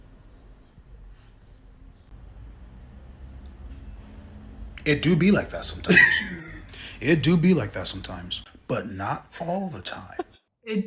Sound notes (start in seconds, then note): 5.9 laughing